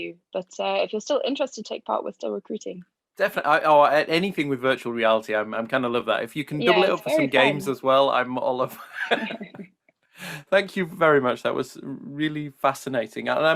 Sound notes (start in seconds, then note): 8.5 laughing